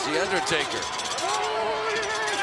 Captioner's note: urn rattling